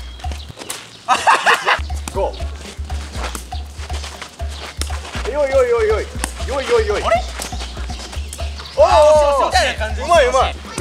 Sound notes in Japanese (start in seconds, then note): 1.8 羽を蹴る音